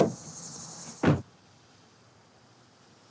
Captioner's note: trunk slams